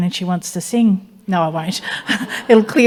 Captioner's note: chuckles